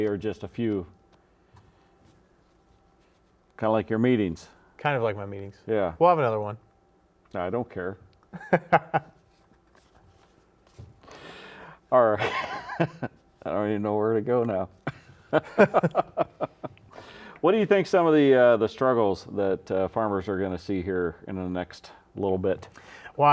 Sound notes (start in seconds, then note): 8.3 laughs; 15.4 laughs